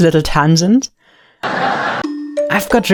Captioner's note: people laughing